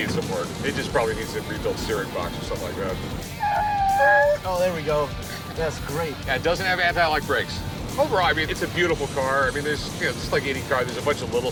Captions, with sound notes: It probably needs a rebuilt steering box. -[wheels screeching] -Oh, there we go. -That's great. -Doesn't have antilock brakes. Overall, it's a beautiful car. Just like any car, there's a bunch of little stuff